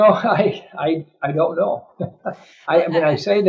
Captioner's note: laughs